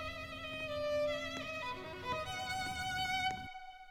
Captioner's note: scared footsteps